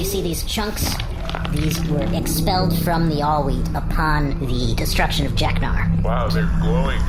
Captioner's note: rocks crumbling